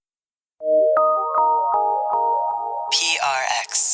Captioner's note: electronic chimes